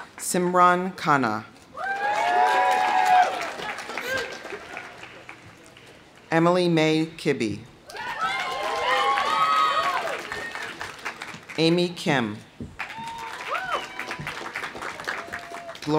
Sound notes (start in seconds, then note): 1.7 audience cheering; 1.8 audience applauding; 7.9 audience cheering; 7.9 audience applauding; 12.8 audience cheering